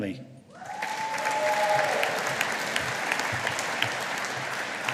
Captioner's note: audience applauding